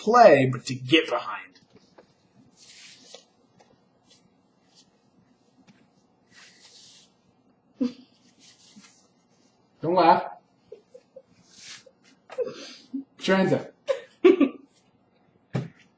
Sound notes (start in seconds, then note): 8.0 giggles; 13.8 laughs